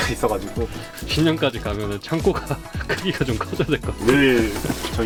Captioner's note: laughs